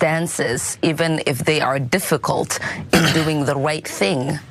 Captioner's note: cough